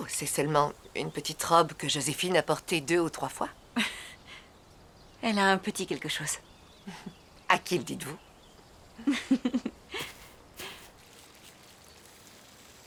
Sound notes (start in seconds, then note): 3.5 small laugh; 9.0 laughter